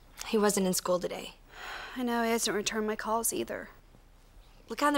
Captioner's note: exhales